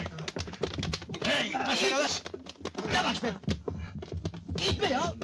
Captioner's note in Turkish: i̇ti̇şme sesleri̇